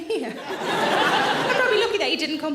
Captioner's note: audience laughing